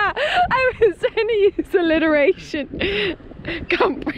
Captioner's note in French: rire